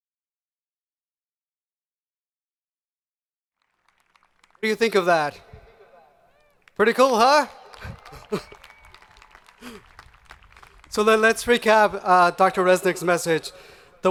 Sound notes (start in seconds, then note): 8.4 audience applauding